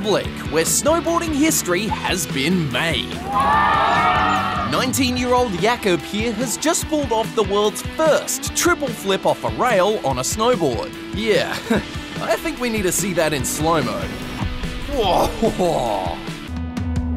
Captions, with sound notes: where snowboarding history has been made. (CHEERING) 19-year-old Jakub here has just pulled off the world's first triple flip off a rail on a snowboard. Yeah, I think we need to see that in slo mo. Whoa, whoa.